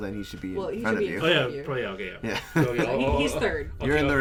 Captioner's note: chuckles